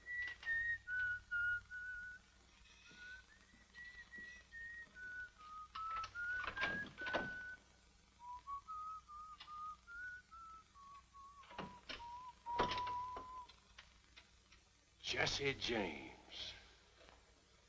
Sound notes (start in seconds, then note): 2.6 whistling continues; 6.2 doorknob rattles